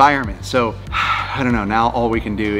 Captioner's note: sighing